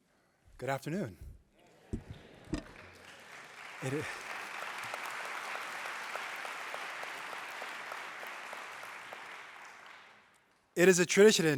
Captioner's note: applause